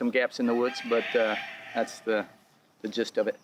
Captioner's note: rooster: cock-a-doodle-do